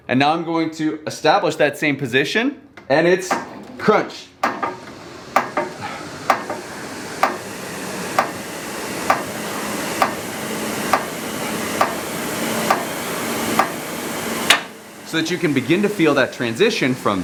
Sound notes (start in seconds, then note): 4.4 handles clattering; 4.5 SkiErg whirring